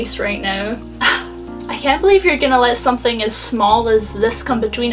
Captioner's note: sigh